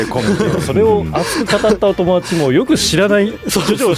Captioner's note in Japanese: 笑い